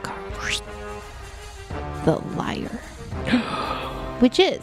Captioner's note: someone makes a card draw sound effect